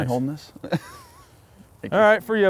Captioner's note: laughs